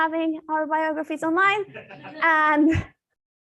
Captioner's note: laughter